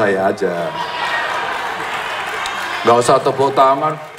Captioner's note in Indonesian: tepuk tangan